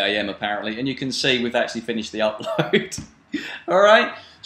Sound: laughs

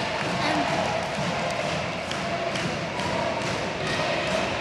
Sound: audience chants

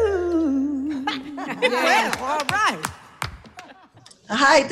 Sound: laughter

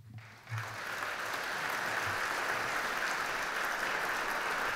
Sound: audience clapping

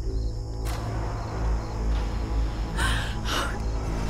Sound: crying

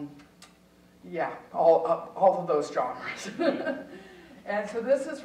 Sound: chuckling

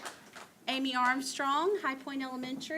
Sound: applause

